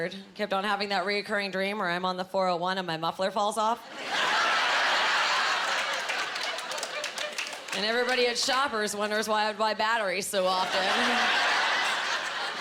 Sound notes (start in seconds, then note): 4.1 laughing